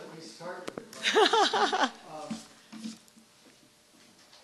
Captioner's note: laughs